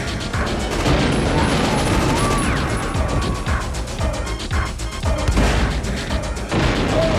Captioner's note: grenade explodes; man screaming; grenade explodes